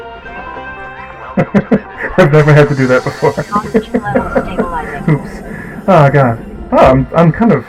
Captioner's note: laugh